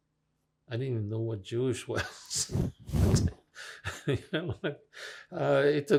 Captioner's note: laughing